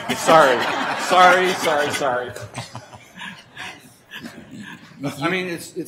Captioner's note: laughter